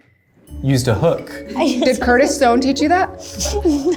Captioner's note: laughs